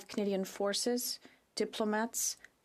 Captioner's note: speaking French